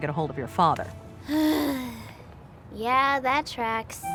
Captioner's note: sigh